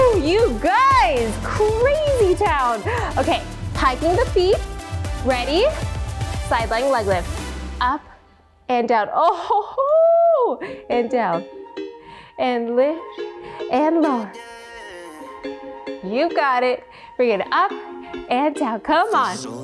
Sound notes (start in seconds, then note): 0.0 shouting; 9.2 laughs